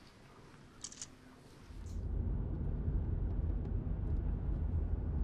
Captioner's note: camera shutter clicking